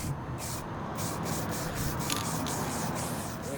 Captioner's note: can spraying